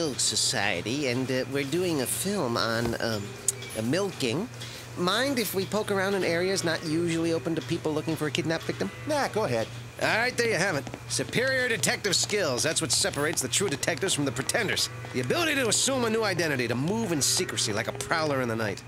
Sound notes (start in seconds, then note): none